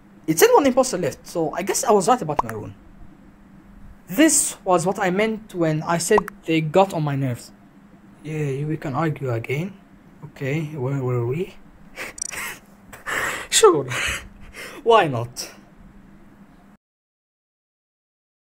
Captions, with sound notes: It said one imposter left so I guess I was right about maroon. This was what I meant when I said they got on my nerves, yay we can argue again okay where were we. [Laugh] sure why not